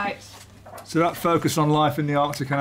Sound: none

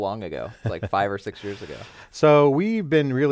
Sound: laughs

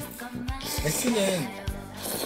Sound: slurping

